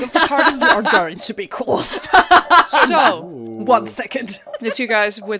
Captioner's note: laughter